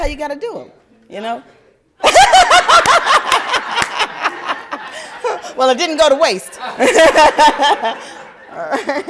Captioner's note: laughter